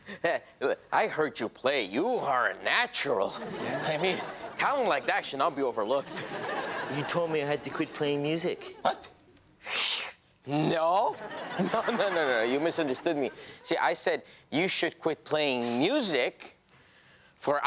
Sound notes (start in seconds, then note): 3.3 audience laughs; 8.6 scoffs